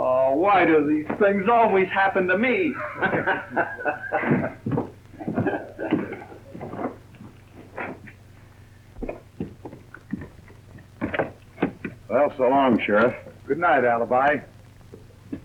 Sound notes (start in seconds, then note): 2.2 Alibi and sheriff laugh